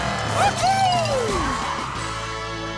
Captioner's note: cheering